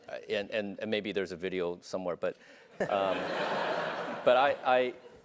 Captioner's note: laugh